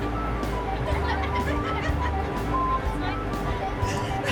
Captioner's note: laughing